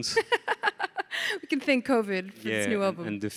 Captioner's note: laughs